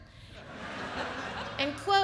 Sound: audience laughs

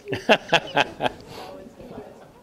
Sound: chuckles

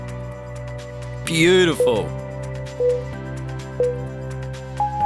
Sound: timer beeping

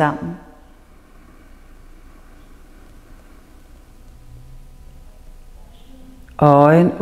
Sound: inhales

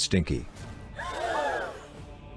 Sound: gasps

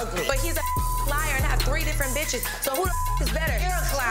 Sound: beep

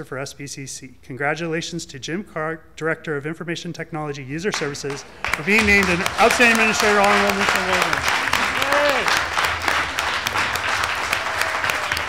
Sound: applause

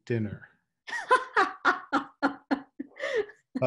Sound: laughs

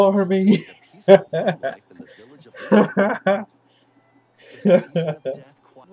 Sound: laughs

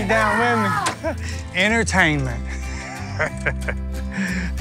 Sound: screams; laughing

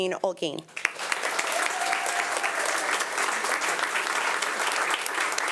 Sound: audience applauding

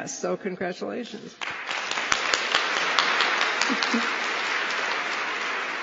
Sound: applause

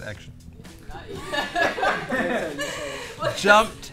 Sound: laughter

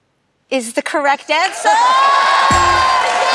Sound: cheers and applause

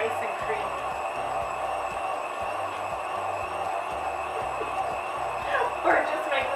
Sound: whirring sounds

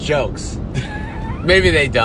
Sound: laughter

